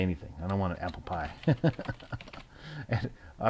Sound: chuckle

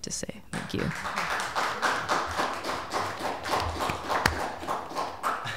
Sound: applause

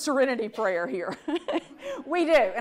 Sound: audience laughs

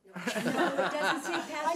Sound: laughs

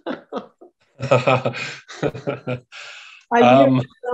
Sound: laughing

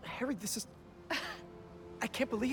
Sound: laugh

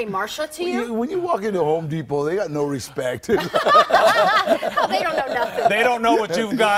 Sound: laughter

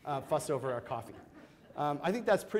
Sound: audience laughs

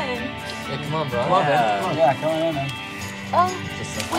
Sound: all urging Snape

